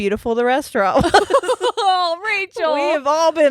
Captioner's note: laughing